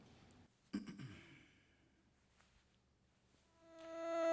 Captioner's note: clearing throat